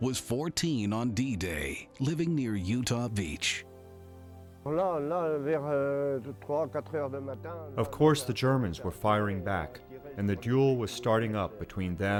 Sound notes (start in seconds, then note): 0.0 emotional music; 6.9 speaks ina foreign language